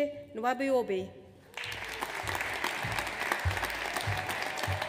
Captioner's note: audience applauds